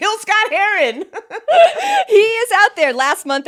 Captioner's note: both laughing